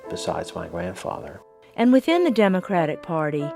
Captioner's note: voiceover